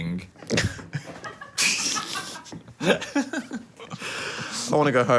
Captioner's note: everyone laughing